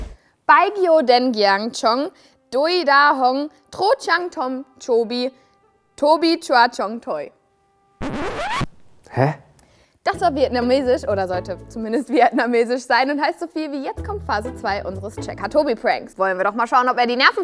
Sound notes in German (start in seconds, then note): 7.5 Quietschende Geräusche